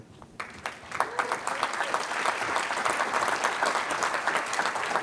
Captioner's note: applause